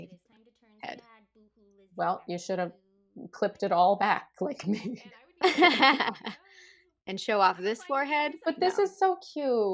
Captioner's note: laughter